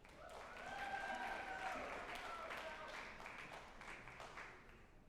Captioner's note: group applauding and cheering